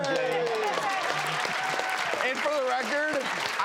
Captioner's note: applause